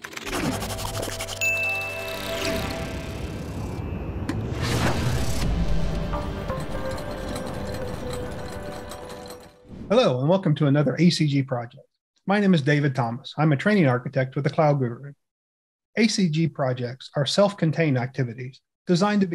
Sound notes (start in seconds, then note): 0.0 pencil scratching; 0.1 air whooshing; 1.4 bell dings; 2.7 engine rumbles; 5.5 bright music; 6.2 gear clicks